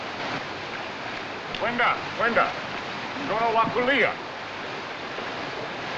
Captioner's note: speaking African Language